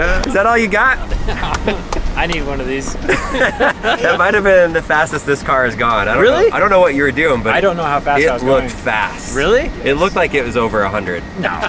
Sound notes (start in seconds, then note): 2.8 laughing